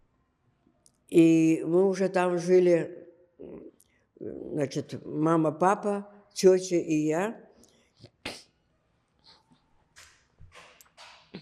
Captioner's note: sniffling